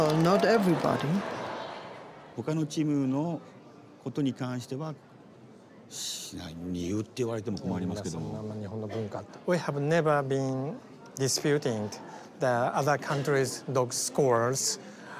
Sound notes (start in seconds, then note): 2.6 speaking Japanese